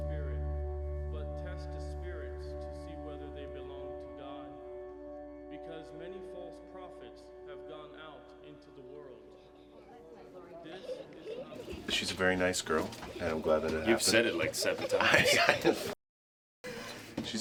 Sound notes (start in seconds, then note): 9.6 indistinct conversations, girls giggling; 14.8 chuckling